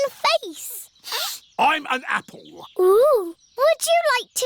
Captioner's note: sniffs